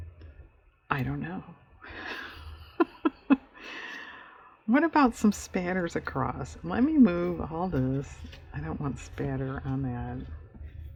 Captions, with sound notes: i don't know (laughs) what about some spatters across let me move all this, i don't want spatter on that